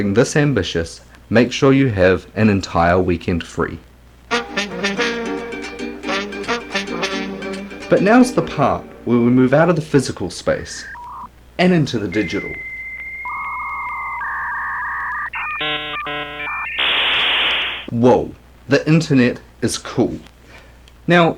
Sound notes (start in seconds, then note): 4.3 musical Interlude; 12.0 dial up sounds